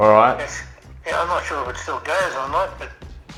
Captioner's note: on phone